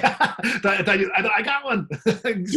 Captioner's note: laughing